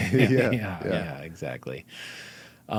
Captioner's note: laughing